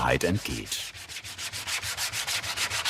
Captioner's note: scraping noises